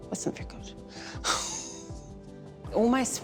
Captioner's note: laughs